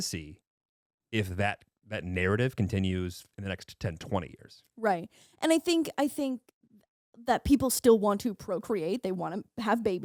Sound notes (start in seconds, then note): none